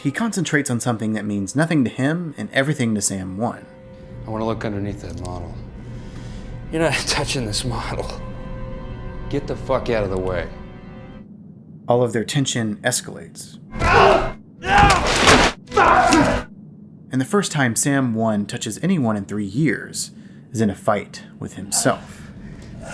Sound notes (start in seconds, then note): 14.6 screaming